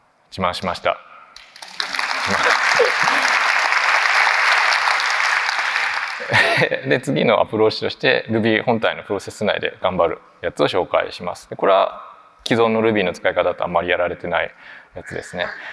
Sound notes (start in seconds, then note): 1.4 applause; 6.2 chuckles